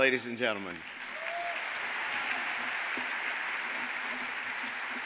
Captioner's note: audience applauding